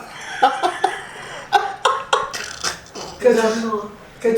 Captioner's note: laughs